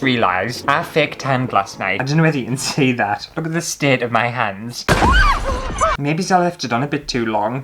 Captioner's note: screams!